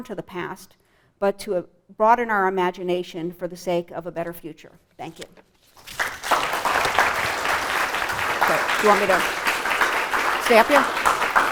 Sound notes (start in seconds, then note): 5.8 applause